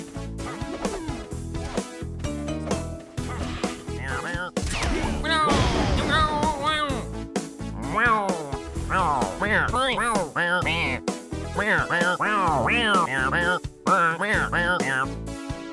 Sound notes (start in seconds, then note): 3.9 shy guy noises